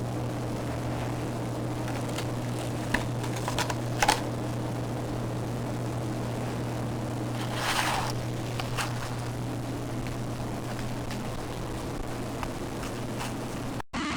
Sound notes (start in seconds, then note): 0.0 audio distortion fades in; 7.0 rustling off-camera; 12.9 audio distortion continues